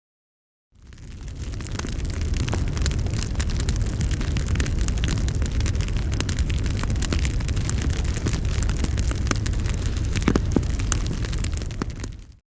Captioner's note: sound of crackling fire